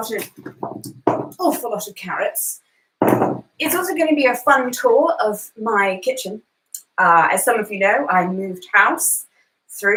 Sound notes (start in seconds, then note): 3.0 carrots thumping